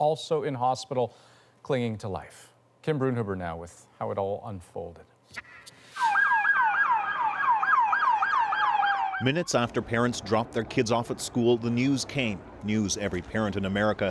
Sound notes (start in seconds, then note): 12.3 sirens